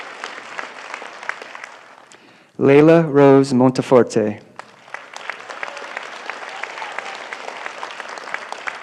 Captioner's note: applause